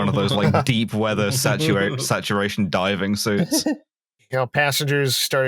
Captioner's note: laughter; laughter